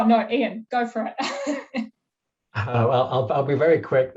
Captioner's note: laughing